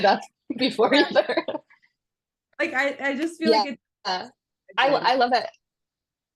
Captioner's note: laughs